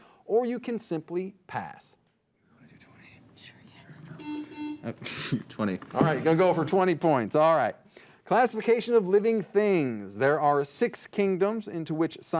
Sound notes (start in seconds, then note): 4.2 buzzer dings; 4.8 laughs